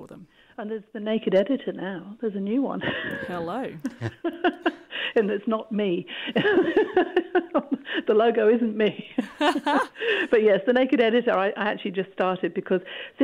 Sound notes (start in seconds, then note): 2.9 laughs; 6.3 laughs; 9.1 laughter